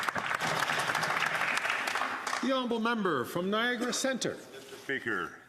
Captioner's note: some Applause